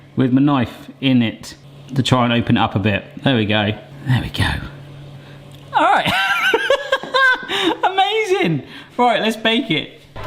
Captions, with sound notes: with my knife in it to try and open it up a bit. There we go, there we go. All right (laughs). Amazing. All right, let's bake it.